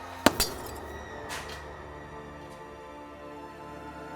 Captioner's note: gun shot